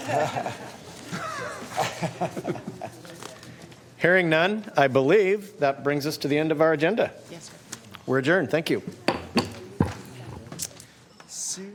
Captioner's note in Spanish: Algunas risas